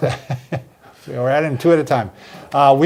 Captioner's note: laughter